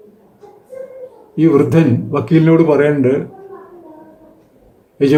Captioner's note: in Malayalam